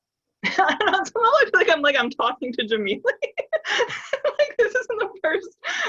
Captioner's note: laughs